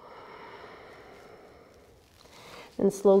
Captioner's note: exhaling